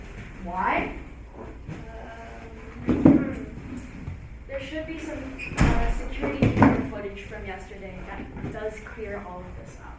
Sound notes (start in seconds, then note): 5.4 door closes